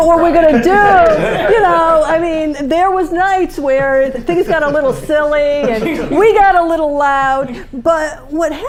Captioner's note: laughter